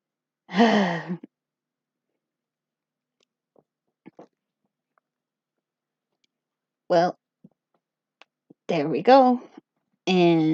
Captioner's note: sigh